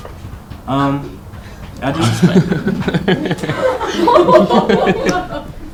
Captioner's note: laughter